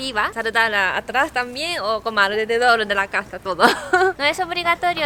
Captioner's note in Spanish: risas